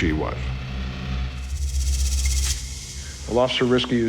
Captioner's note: suspenseful rattling